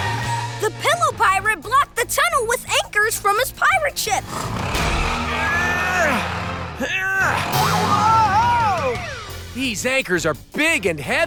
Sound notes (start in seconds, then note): 4.1 grunting